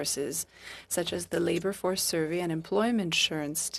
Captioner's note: speaking French